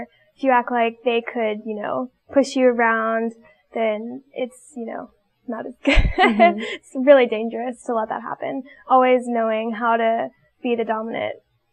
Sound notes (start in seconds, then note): 5.8 laughs